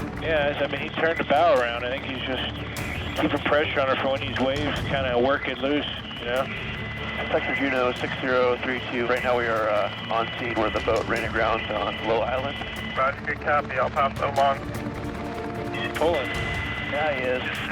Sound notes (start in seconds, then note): 8.2 man On Radio; 13.5 man On Radio